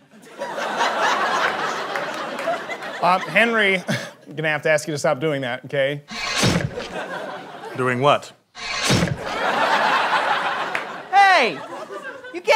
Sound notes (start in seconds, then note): 0.0 audience laughter; 6.1 guillotine chop; 8.6 guillotine chop; 8.8 audience laughter